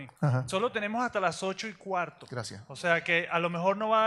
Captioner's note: speaks in Spanish